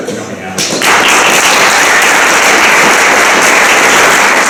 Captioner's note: applause